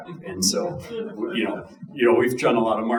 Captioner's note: audience chuckling